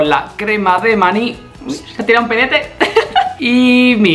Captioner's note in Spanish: risa